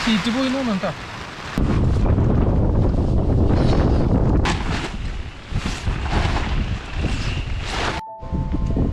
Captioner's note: wind blowing